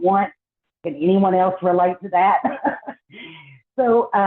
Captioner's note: laughs